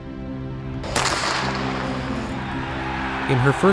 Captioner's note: gun shot thudding